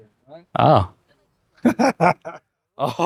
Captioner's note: laughs